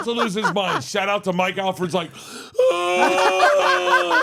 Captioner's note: groans; laugh